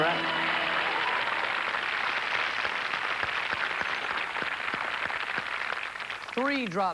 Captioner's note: fanfare; cheers and applause